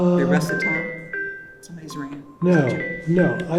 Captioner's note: phone ringing